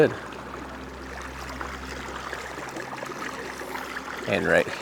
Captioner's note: water lapping gently